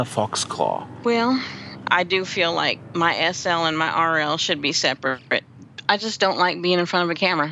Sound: sighs

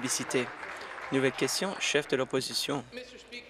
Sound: applause

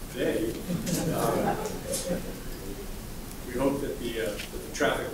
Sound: laugh

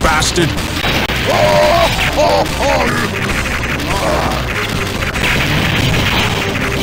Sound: laughs in disbelief

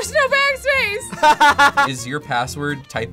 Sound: laughs

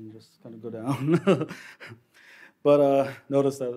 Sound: laughs

